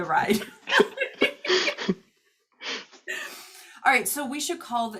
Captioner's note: laughing